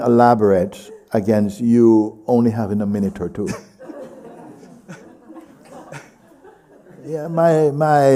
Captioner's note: laughter